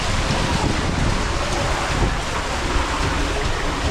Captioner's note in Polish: odgłos wody